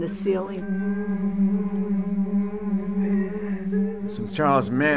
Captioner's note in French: en jeu: bourdonnement inquiétant et sanglots faibles